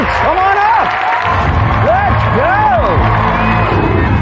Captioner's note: cheering and applause